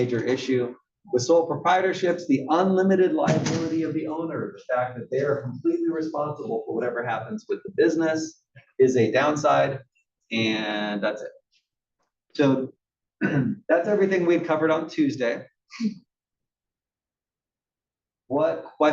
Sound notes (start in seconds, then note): 13.2 cough